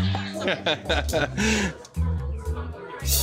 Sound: laughs

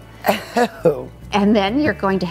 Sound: laughs

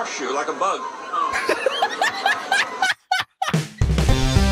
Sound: laughter

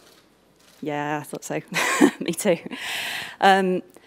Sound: chuckles

